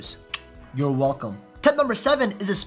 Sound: clicks tongue

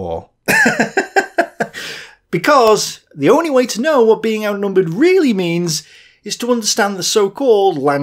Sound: laugh

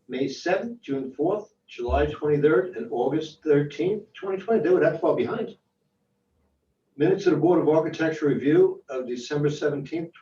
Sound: phone

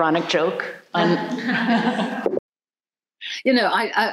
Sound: group laughs

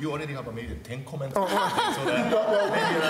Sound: laughter

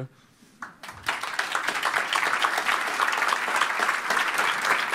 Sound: applause

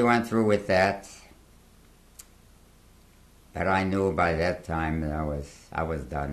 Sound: pauses for 3 seconds

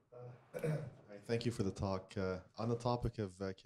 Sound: voiceover

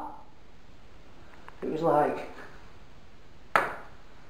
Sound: banging noise

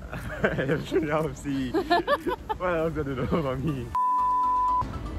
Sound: both laugh

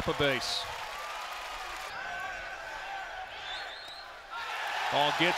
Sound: crowd noise

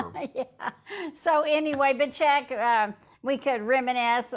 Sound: laughs

